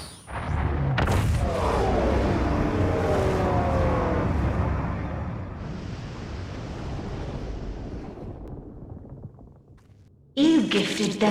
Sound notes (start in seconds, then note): 0.3 explosion